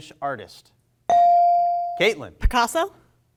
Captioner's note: bell rings